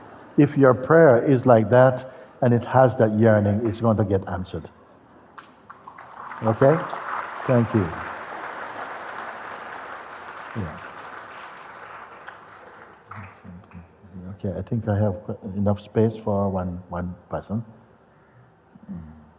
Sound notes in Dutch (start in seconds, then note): 8.7 applaus